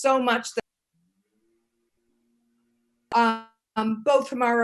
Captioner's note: audio cutting out